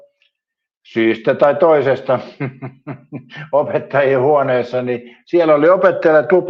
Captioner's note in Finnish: naurua